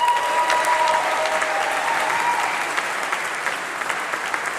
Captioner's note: applause